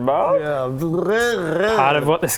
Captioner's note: hesitant lizard noises